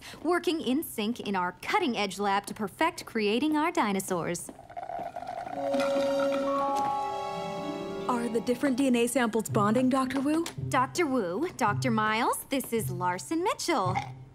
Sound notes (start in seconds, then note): 4.6 slurping